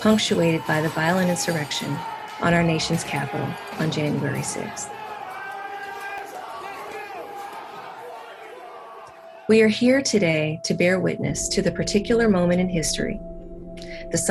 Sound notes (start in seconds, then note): 5.0 crowd shouting